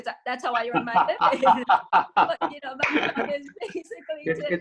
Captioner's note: laughs